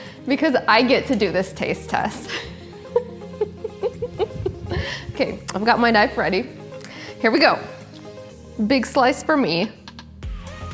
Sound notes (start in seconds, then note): 2.2 laughing